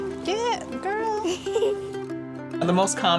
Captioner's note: girl laughs